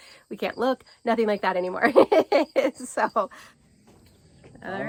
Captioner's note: laughs